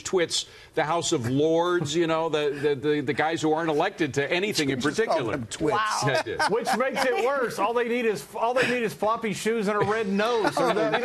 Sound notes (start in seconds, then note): 3.4 laughter